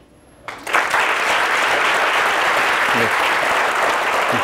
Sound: audience applauding

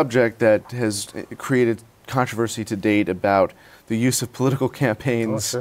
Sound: laughs

